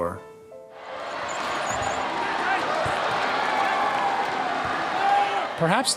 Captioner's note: crowd cheering